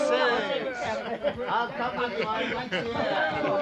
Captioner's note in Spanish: Todos ríen y charlan